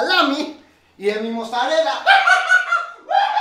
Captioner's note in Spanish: se ríe